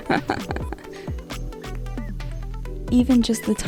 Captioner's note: laughing